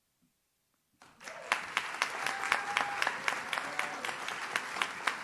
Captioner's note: audience cheers